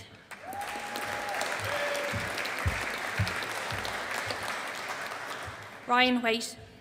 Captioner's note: audience applauding